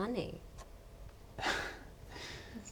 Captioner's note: laughs